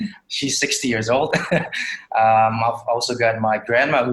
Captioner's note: chuckles